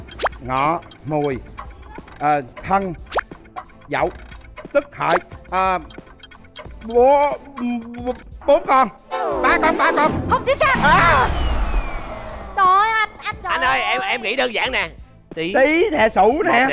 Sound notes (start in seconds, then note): none